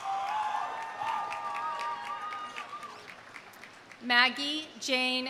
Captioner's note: audience cheering; audience applauding